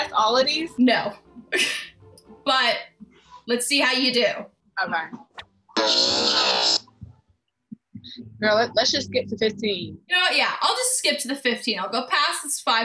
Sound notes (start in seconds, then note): 1.5 laughs; 5.7 warped audio